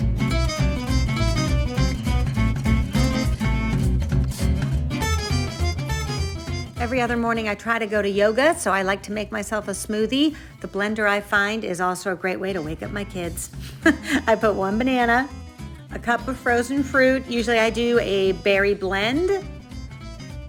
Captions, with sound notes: (upbeat music) Every other morning, I try to go to yoga. So I like to make myself a smoothie. The blender I find is also a great way to wake up my kids. (giggles) I put one banana, a cup of frozen fruit, usually I do a berry blend.